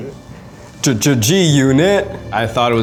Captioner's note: stuttering